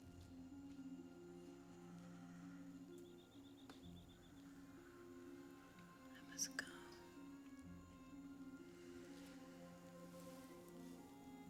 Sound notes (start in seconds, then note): 5.9 wh ispers